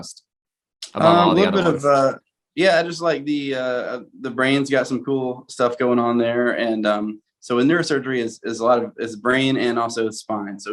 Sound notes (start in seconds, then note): none